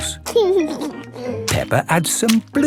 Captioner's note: laughing